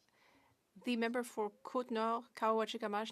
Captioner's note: speaking French